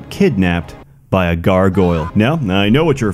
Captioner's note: sensual gargoyle screech